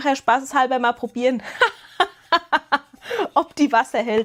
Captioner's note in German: gelächter